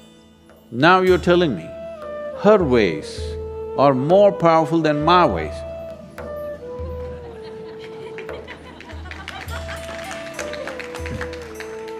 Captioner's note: laughter/Applause; 笑聲/掌聲